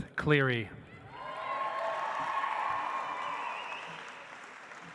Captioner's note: audience applauds